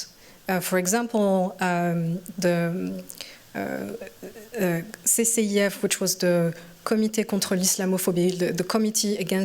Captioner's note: french